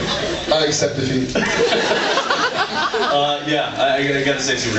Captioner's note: laughs